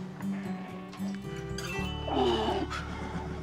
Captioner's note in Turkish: Adam İnliyor